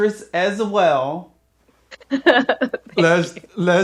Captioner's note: laughs